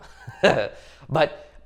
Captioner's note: chuckles